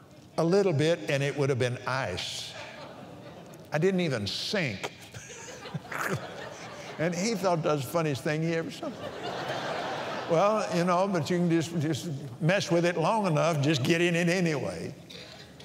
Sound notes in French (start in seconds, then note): 9.7 rires